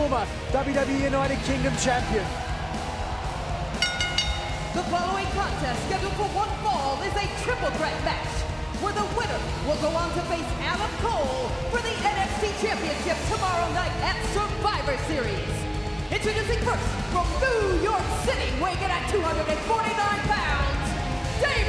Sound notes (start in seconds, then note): 5.4 bell ringing